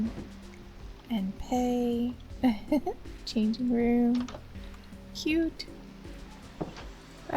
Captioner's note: giggle